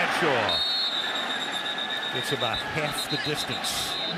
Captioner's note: whistles blow